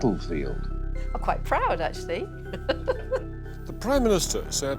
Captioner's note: laughing